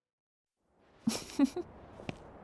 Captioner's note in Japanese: 軽い笑い